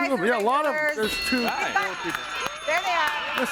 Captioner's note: bell rings